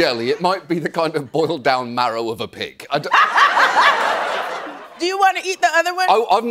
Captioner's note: laughs